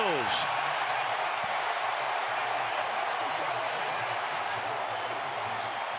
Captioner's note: cheering